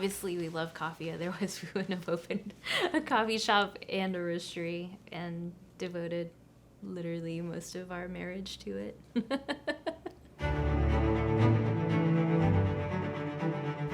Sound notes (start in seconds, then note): 9.2 laughing; 10.4 upbeat music